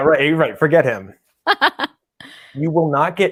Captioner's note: laughs loudly